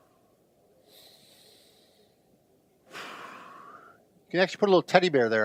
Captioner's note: inhale, exhale